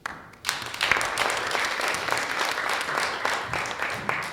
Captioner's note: audience applauds